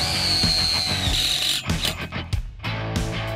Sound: drill squealing; rock music

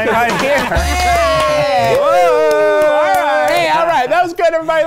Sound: laughing and yelling

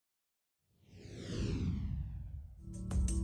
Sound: logo whooshes; gentle upbeat music

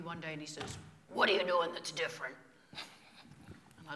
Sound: imitating Joe

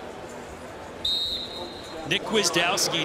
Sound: referee blows the whistle

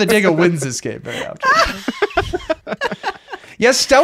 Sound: laughing

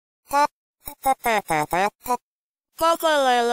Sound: throatal noises

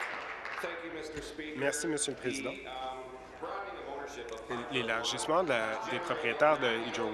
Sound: applause

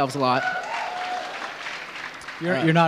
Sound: audience cheering

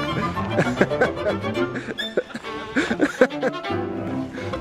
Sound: father laughing

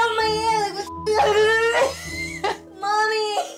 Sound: yelling

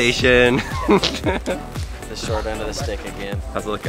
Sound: laughs

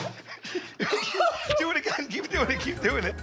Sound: both laugh; coughs

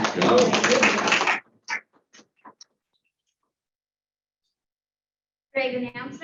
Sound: applause

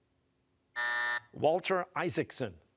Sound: buzzer

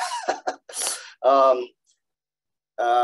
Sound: laughs

